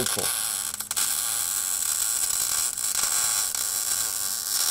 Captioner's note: welding tool buzzing